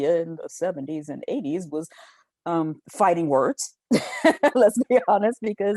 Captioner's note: chuckles